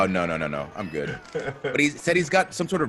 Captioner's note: laugh